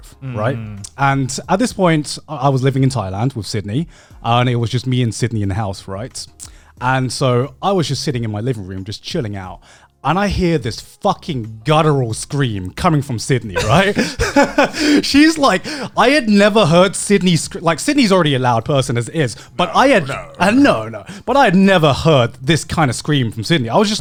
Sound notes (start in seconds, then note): 13.5 laughs